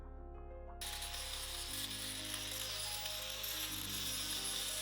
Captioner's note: angle grinder whirring